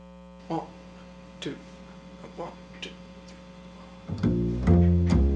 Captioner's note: voiceover